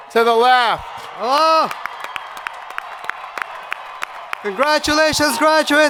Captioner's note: crowd applauding